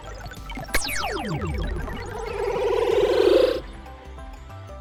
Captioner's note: electronic beeping